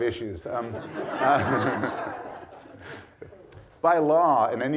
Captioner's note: audience laughs